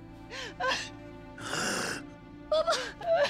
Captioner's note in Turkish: Nefes sesi; Ağlama sesi